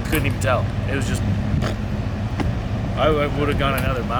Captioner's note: mimics noise